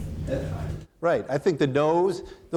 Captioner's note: man speaking off microphone